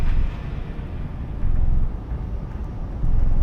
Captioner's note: deep rumble in the distance